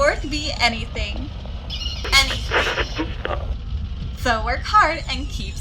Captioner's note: distorted Voice; radio scans through channels, stops, and static stops